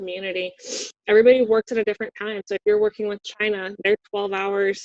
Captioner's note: sniffs